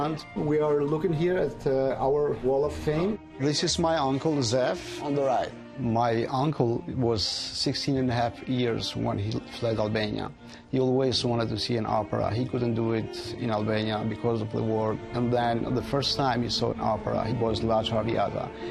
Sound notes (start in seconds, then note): none